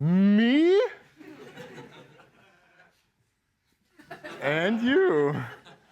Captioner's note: laughter